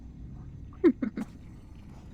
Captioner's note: laughing